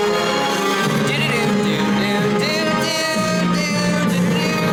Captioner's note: humming